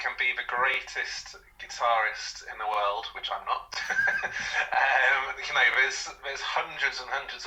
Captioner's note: laughter